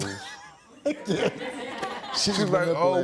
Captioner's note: audience laughing